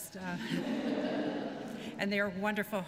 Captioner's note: laughter